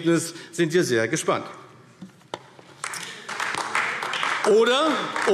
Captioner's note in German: Beifall AfD